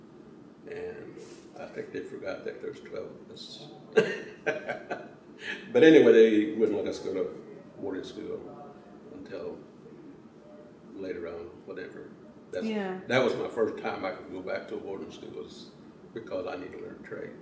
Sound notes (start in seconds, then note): 3.9 laughs